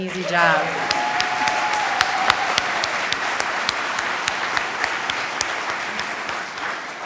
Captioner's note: audience applauds; audience cheers